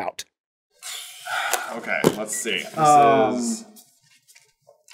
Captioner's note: deep sighs